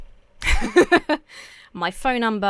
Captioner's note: laughs